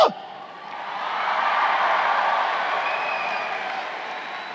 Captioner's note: crowd cheering